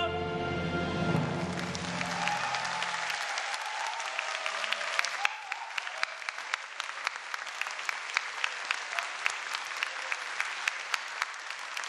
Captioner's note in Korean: 박수와 환호